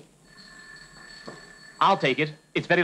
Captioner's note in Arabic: رنين الهاتف